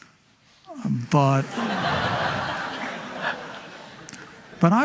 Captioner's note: laughing